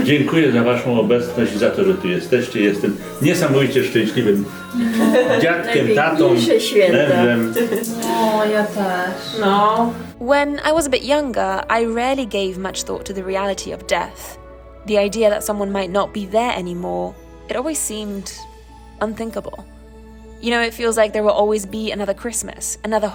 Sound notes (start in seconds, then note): 0.2 grandpa speaking in Polish; 5.8 people conversing in Polish